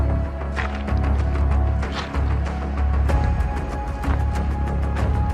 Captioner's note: pebbles crunching; edgy music continues